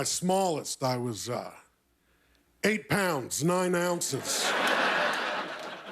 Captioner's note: laughter